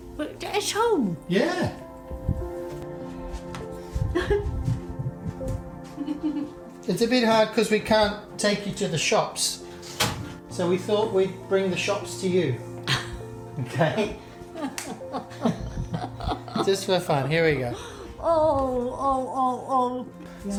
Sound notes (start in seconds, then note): 1.8 gentle music; 3.9 chuckles; 9.9 door clicks; 14.4 chuckles